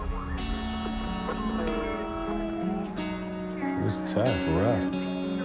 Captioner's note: police radio chatter